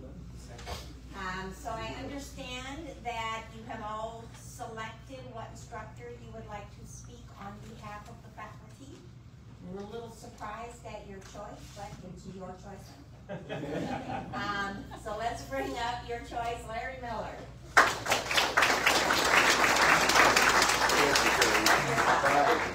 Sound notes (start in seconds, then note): 13.4 audience laughs; 17.7 audience applauds